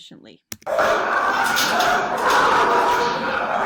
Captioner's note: dog barks